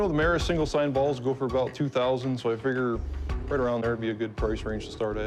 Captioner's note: none